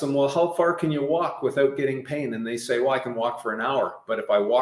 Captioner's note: none